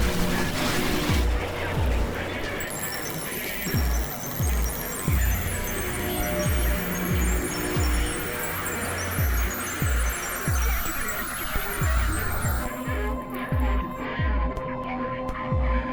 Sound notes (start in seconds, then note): 3.3 erratic beeping; 12.7 distorted sounds